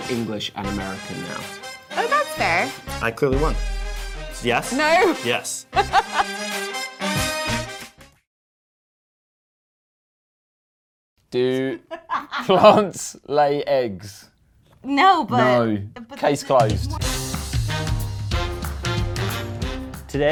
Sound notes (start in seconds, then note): 5.7 she laughs; 11.6 laughs; 11.8 woman laughs; 16.5 lively big band music